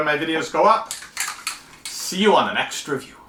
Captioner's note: spray can shaking